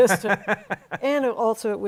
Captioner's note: laughs